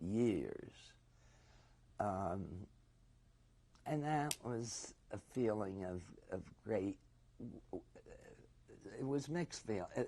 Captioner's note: pauses for 3 seconds